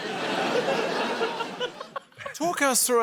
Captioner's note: laughter